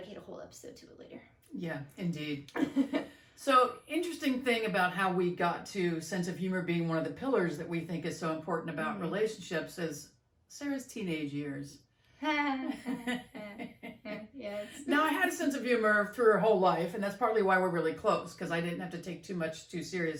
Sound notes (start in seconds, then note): 12.7 laughs awkwardly